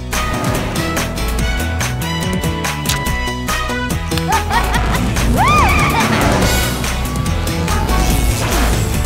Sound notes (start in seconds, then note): 4.2 laughter